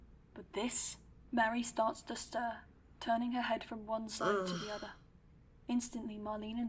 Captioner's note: Mary groans